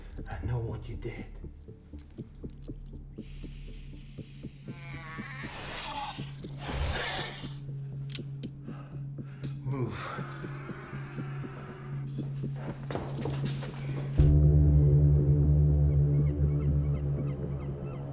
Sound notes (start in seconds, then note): 2.3 dramatic music; 4.5 dinosaur screeching; 11.5 dramatic music